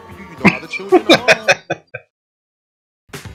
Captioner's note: laughing